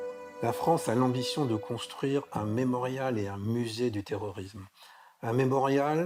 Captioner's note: speaking in foreign language